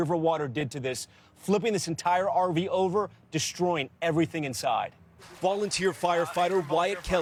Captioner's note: cheers and applause